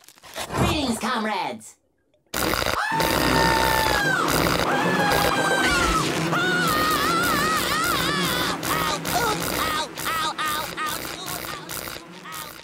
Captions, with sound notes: Greetings, comrades. [screaming] Ow! Ooh! Ow! Ow! Ow! Ow! Ooh!